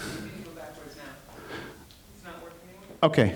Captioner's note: woman's Voice